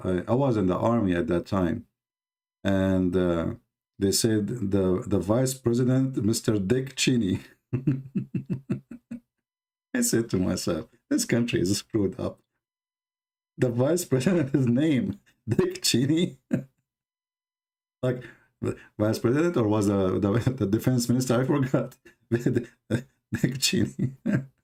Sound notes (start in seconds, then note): 7.7 Ketawa